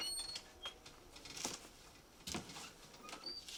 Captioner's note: door creaking